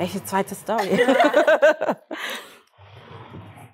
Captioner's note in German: Gelächter